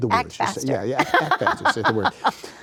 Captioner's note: laughs